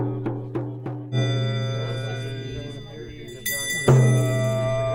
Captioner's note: bell Chiming